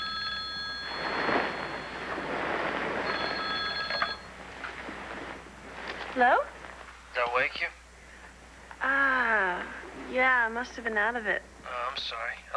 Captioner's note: telephone rings